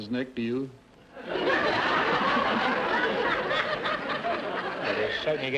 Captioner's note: audience laughter